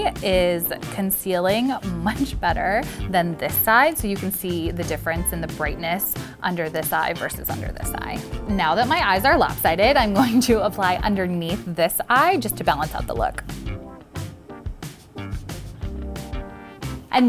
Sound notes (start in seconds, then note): 10.1 laughing; 14.0 upbeat music